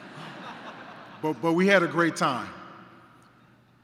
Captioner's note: laughter